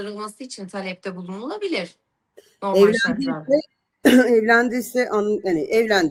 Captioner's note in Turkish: boğazını temizler